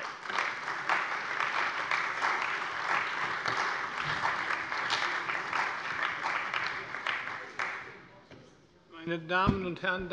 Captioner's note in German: Beifall bei der CDU und dem BÜNDNIS 90/DIE GRÜNEN